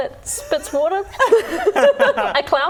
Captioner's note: laughing